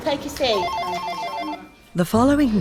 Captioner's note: phone ringing